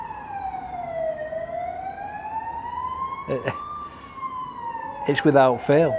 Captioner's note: siren